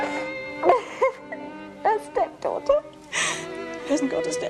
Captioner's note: laughs